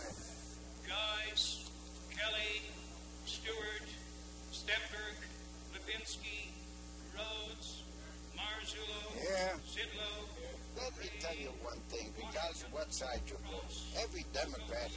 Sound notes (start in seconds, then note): 1.2 voice reading over microphone; 9.4 voice reading over microphone